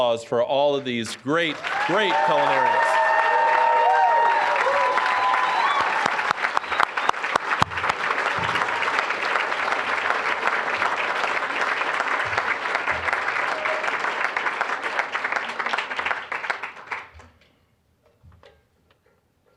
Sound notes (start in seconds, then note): 2.9 applause, cheering; 8.7 applause